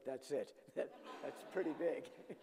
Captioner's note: audience laughing